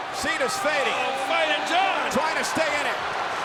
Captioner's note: crowd cheering